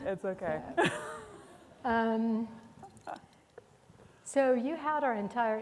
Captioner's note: laughing